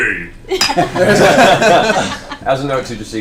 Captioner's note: all laugh